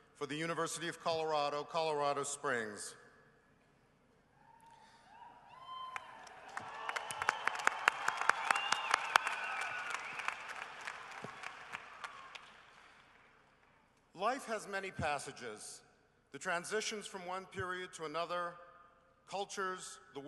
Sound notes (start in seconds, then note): 5.2 cheering and applause